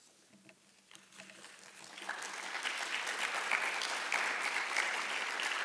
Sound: audience applauding

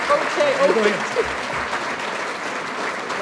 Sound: applause

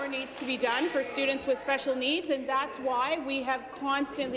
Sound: applause

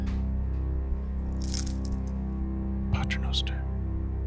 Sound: rosary beads rattling; praying in Latin

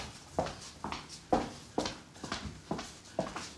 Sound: footstep sound

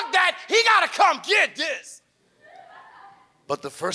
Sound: audience laughs

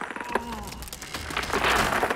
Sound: groaning; cactus falling

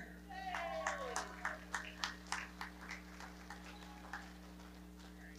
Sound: audience cheering and clapping

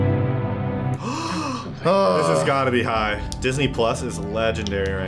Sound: gasps

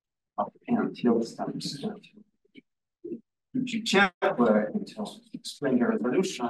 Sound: audio distorting

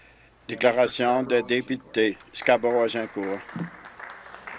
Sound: some Applause

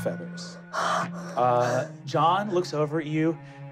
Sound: gasping

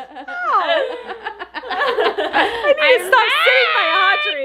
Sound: and family laughs

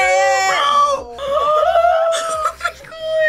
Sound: both gasping

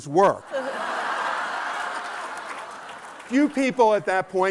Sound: laughter

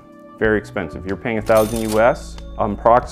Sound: cash register clinks

